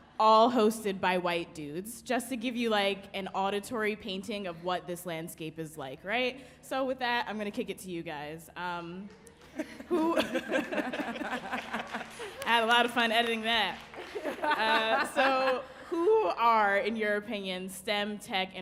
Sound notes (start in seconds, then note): 9.5 laughing; 13.9 panelist laughing